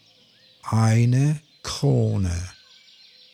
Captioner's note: german